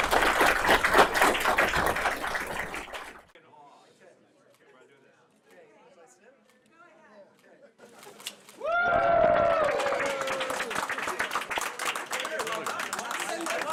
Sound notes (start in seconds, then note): 0.0 applause; 8.6 cheering